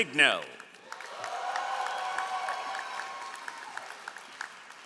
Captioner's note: all applauding